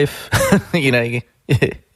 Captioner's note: chuckles